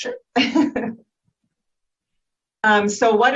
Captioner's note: chuckles